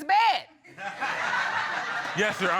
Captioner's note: audience laughing